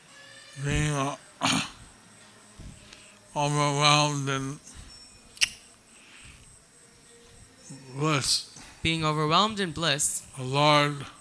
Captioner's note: cough